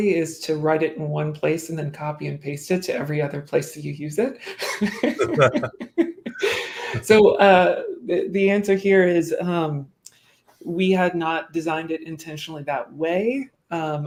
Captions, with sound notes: is to write it in one place and then copy and paste it to every other place that you use it. [LAUGHTER] So the answer here is we had not designed it intentionally that way.